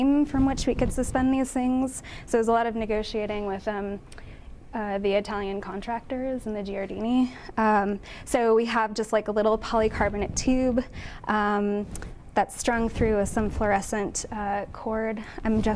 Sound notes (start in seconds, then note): none